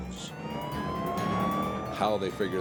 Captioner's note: sirens blaring